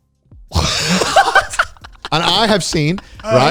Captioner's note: laughing